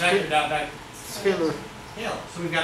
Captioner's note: speaks softly